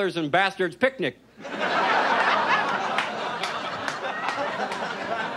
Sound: audience laughs

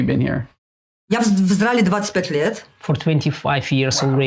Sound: speaking in foreign language

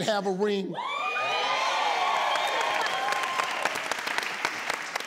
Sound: audience cheers

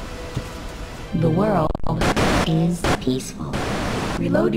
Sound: glitching

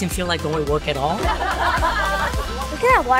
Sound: laughter

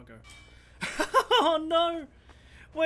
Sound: laughing

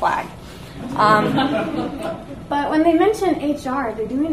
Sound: audience laughs

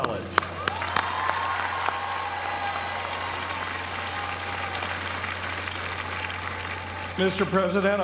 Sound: applause

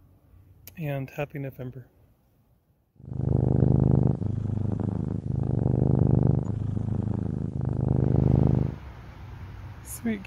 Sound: purring

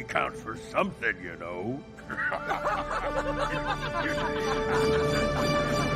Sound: laughing

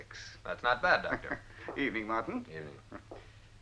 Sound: chuckling

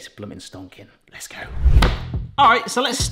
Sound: onion thuds

